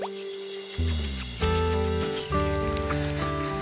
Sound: kissing sounds

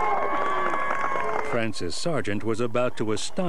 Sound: applause

